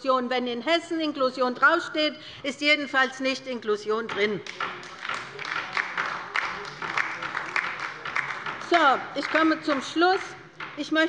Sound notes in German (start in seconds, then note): 4.4 Beifall bei der LINKEN